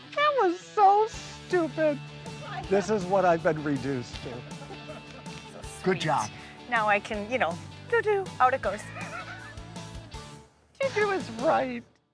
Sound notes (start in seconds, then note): 8.8 laughing